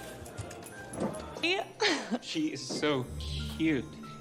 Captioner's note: chuckles